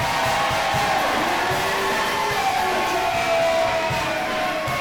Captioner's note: crowd cheering